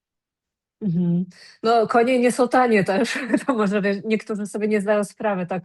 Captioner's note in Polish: śmiech